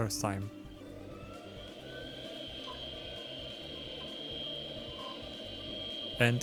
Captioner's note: computer starts, fan and hard drives spool up